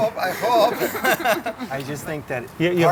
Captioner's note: laughs